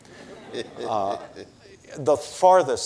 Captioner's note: audience laughing